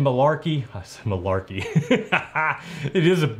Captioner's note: laughs